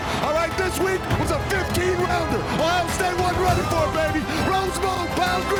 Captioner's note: players shouting indistinctly